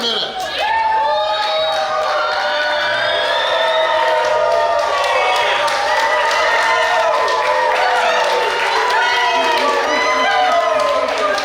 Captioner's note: cheering & Clapping